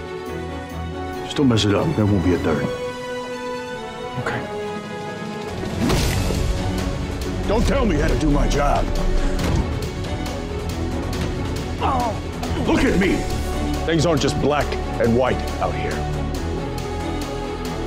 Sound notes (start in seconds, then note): 11.7 groans